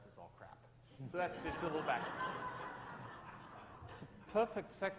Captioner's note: audience laughs